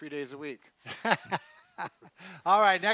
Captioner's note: laughs